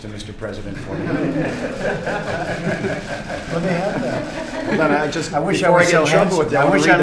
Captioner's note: laughter